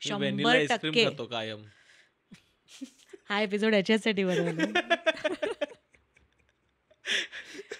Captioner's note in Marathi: हास्य